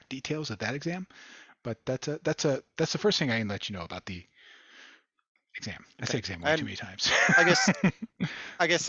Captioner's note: laughter